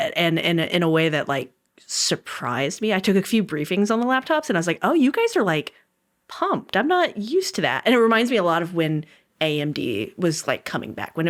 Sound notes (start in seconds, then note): none